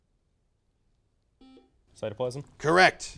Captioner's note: buzzer noise